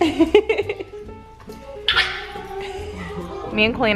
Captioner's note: laughing